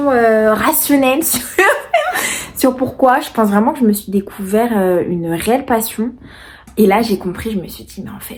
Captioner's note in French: rires